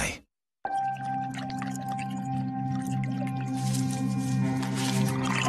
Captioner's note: liquid bubbling